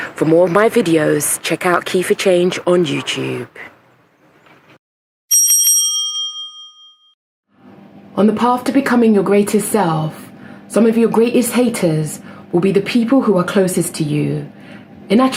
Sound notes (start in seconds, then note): 5.3 bell rings